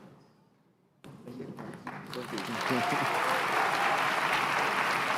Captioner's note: applause; applause